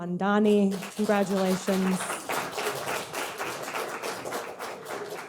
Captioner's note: audience clapping